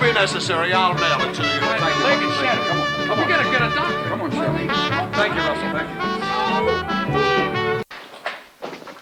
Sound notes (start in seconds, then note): 1.0 all clamoring